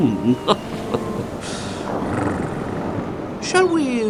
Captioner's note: purrs; laughs